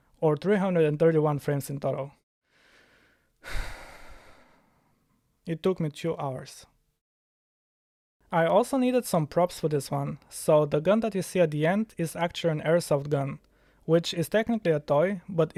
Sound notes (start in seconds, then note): 3.4 sighs